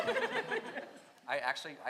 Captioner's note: audience laughs